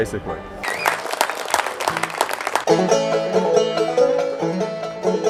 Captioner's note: applause